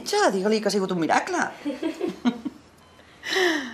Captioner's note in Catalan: Sílvia: riu